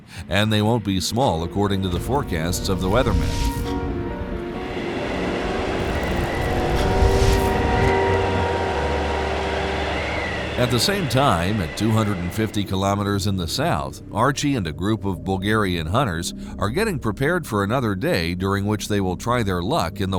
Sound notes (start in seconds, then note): 6.9 car engine revving